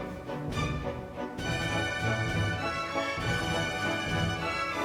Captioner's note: fabric rustling